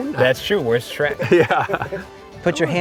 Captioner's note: chuckles